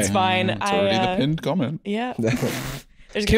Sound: laughs

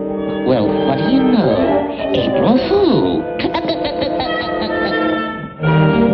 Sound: laughs

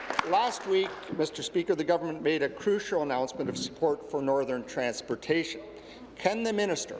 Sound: applause

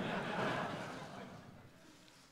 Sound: laughter

